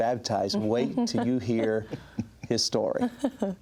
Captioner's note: chuckles